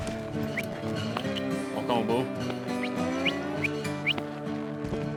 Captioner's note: whistles